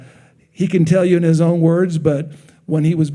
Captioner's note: none